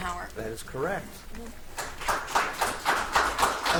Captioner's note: audience applauds